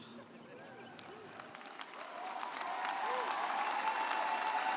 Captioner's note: audience applauds